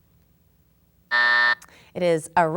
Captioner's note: buzzer sounding